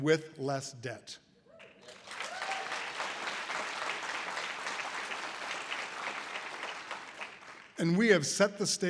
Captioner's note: audience applause